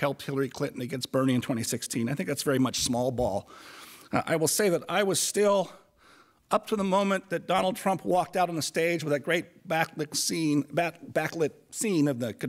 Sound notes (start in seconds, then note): none